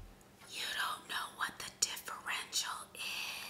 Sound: whispering

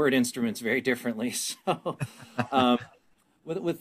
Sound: laughing

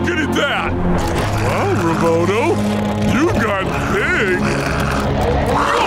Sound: growling

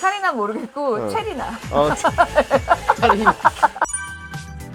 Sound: laughs

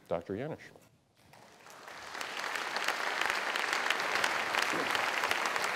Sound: applause

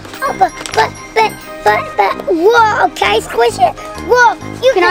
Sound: babbles

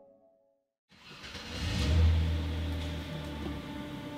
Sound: car engine roars

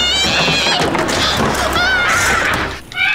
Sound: screaming

